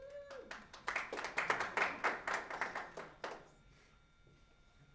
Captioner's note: audience applauding